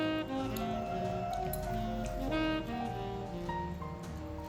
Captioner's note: making strange sounds while he's stretching